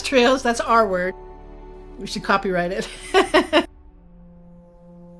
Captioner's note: laughs; suspenseful music